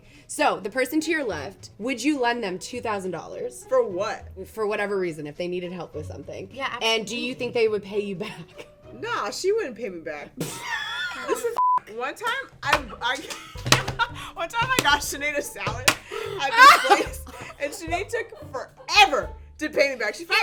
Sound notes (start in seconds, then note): 10.5 laughs; 11.6 beep; 13.0 laughs